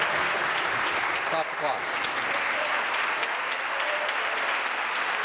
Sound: applause

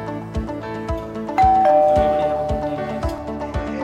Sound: doorbell rings

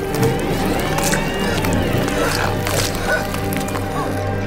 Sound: Squelch

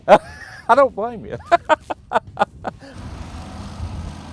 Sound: laughing

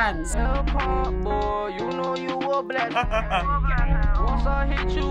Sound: chuckles

